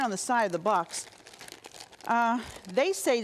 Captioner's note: plastic rustling